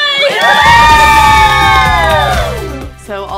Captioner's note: all cheering